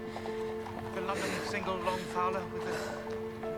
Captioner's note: charles chattering